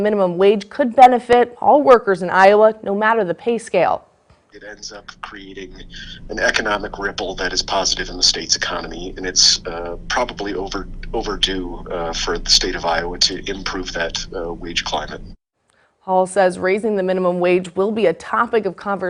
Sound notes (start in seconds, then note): 6.1 phone call